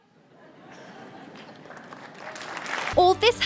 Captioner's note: hesitant applause